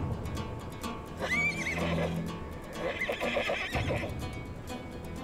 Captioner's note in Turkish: At kişneme sesi